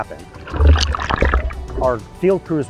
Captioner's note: water whooshing